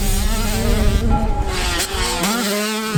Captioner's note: pipe hit sfx